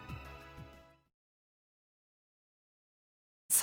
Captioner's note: silence